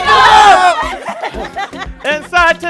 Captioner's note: laughter